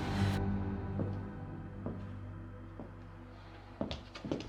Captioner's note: shoes clacking